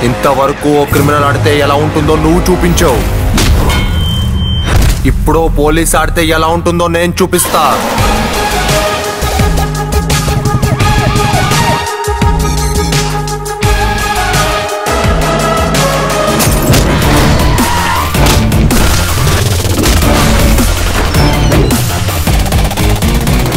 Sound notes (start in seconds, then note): 10.7 cop siren; 16.4 glass breaks; 16.9 tyres screeching